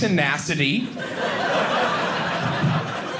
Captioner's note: audience laughing